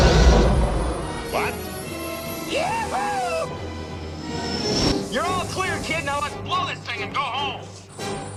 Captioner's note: blow